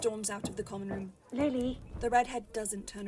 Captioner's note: footsteps